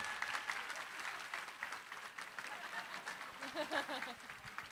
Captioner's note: cheering, applause; laughter